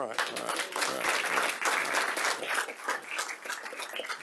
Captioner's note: audience clapping